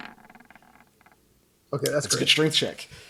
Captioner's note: dice roll